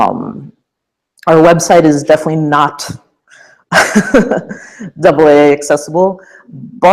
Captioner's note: chuckle